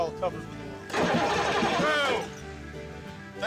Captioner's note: engine turning over